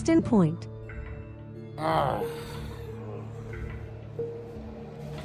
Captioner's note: sighs